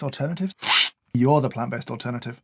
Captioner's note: slurp